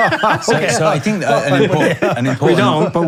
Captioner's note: both laughing